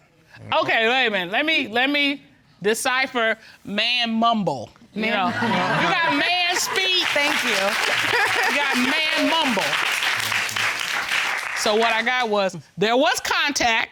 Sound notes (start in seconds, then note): 7.8 laughs